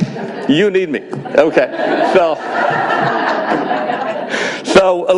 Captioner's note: audience laughs